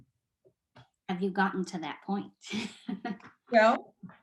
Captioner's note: chuckles